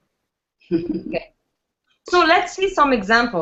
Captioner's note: laughs